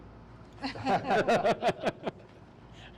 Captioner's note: laughing